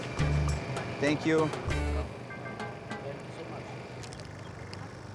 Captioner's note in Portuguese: falando em ingles